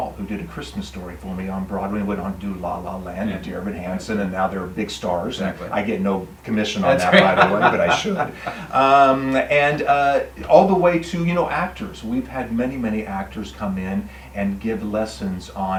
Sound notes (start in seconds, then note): 6.7 laughing